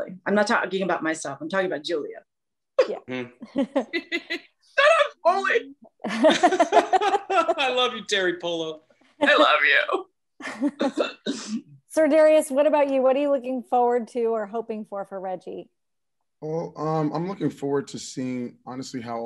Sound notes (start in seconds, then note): 3.3 laughs; 4.8 fake cries; 6.0 laughs